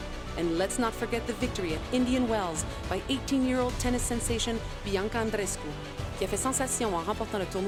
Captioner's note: speaking French